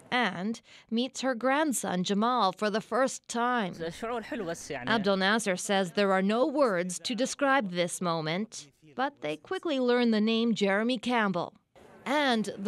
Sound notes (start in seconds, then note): 8.7 speaking foreign language